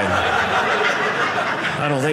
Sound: audience laughing

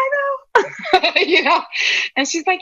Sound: laughter

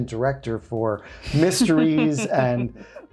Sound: chucking

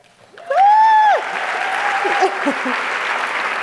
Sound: applause

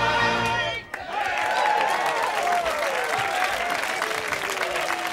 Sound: applause

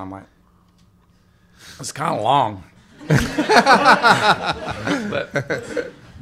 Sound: laughter

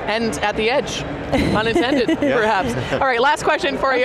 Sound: panel members laugh

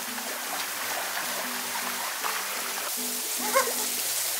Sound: waterfall rushes

